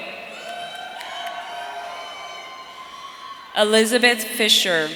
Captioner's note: audience cheering